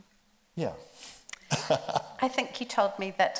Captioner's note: laughs